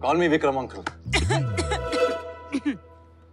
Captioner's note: Coughing